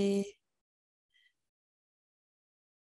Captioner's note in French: silence